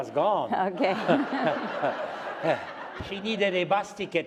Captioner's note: laughter